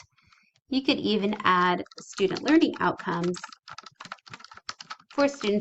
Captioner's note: typing